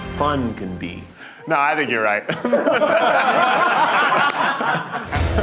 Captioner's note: group laughs